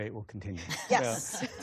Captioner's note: laughter